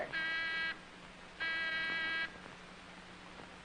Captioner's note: door bell rings